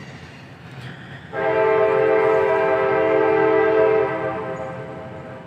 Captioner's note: train Whistle Blows